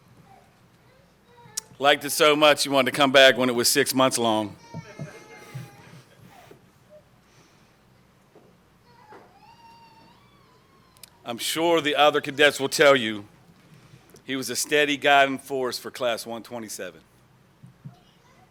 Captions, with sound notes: He liked it so much, he wanted to come back when it was six months long. [ Baby Crying ] I'm sure the other cadets will tell you he was a steady guiding force for Class 127.